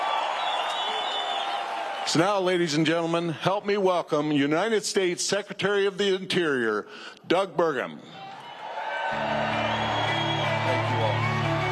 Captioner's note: cheers and applause